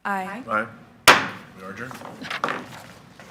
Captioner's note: gavel taps